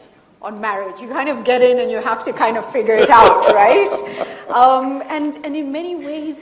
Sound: Sadhguru laughs

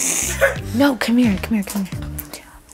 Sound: all laughing

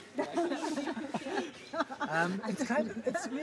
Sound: laughs

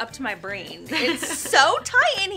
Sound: laughs

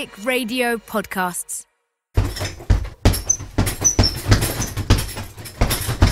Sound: punchbag noise

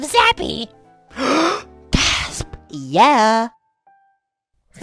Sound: gasps

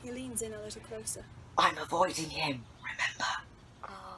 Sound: mock-whispering

